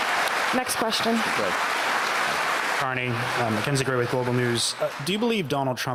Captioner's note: cheers and Applause